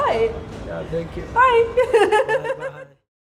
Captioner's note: laughing